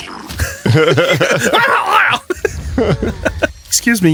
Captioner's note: Laughs, then mimics Bokoblin death